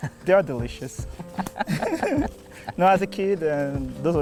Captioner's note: laughing